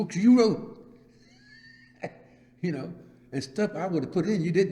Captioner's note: laughs